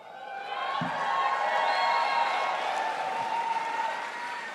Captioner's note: crowd applauds